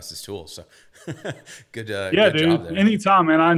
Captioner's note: laughs